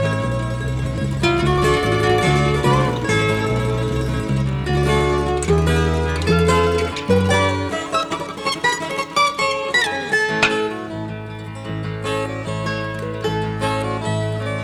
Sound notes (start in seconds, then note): 10.4 crack of basball bat